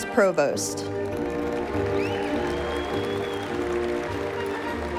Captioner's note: cheers